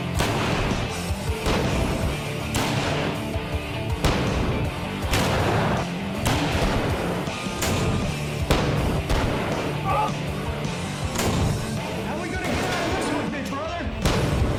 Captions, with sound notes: [GUNSHOTS] How are we going to get that mission with me, brother?